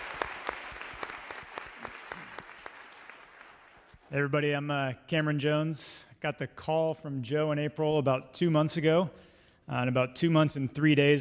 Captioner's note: applause